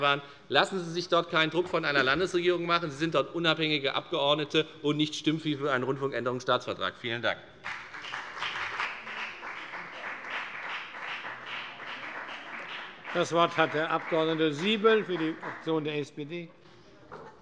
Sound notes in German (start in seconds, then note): 7.6 Beifall bei der FDP